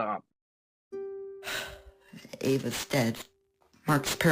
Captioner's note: sigh